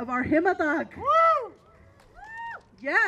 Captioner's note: applauding